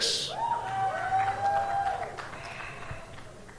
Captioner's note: cheers and applause